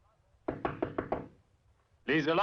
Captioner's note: door knocking